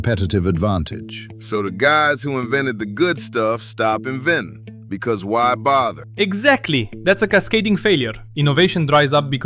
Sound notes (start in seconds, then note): 2.0 flatly; 7.0 excited